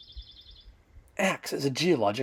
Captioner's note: bird song